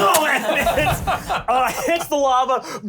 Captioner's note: flame